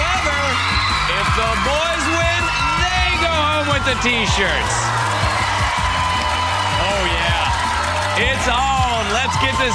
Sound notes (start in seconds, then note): 6.9 boys cheering